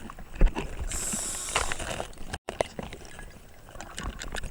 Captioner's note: air hissing